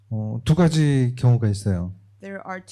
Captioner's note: speaking korean